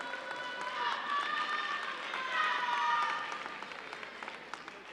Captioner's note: audience applauding; audience cheering